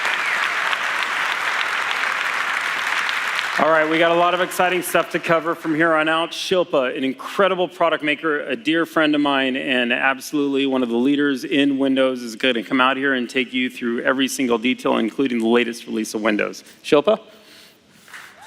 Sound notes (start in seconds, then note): 0.0 applause; 3.4 cheers